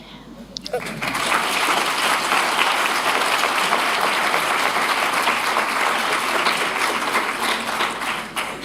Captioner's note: applause